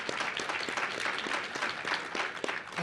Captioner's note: applause